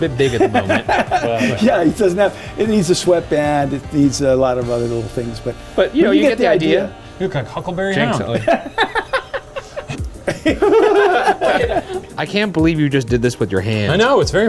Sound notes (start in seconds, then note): 0.0 both laughing; 8.0 laughing; 10.5 all laughing